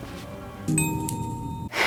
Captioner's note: ding!